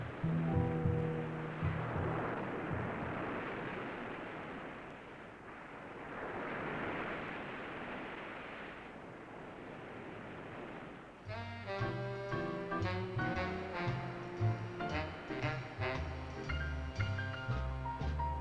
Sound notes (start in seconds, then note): 2.3 waves crashing; 11.2 sultry jazz music